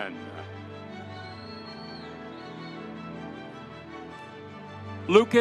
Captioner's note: audience cheering